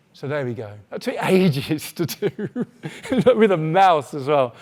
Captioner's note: laughs